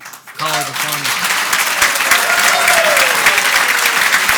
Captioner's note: audience applauds